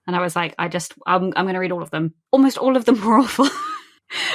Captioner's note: laughing